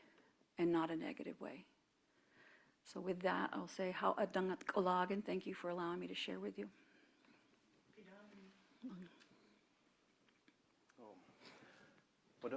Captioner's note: speaking own language